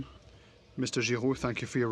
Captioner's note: speaking French